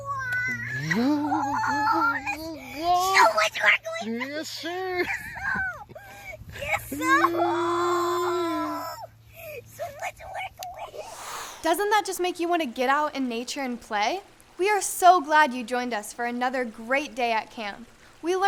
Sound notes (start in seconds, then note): 7.5 yells in excitement